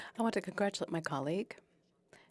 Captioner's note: speaking French